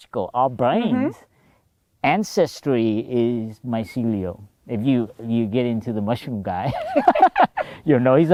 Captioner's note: laughter